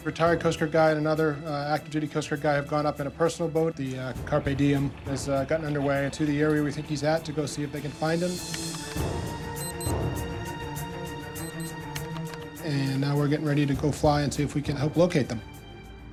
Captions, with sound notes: Retired Coast Guard guy and another active duty Coast Guard guy have gone up in a personal boat. The Carpe Diem has gotten underway to the area we think he's at to go see if they can find him. (keys typing) (watch alarm beeping) (keys typing) And now we're getting ready to go fly and see if we can help locate them.